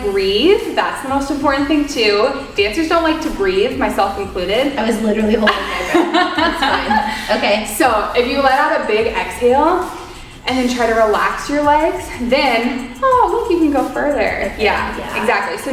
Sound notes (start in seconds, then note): 5.2 both laughing